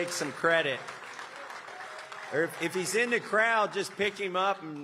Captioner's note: applause